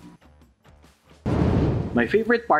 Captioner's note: soft upbeat music; whooshing